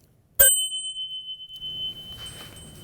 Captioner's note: bell rings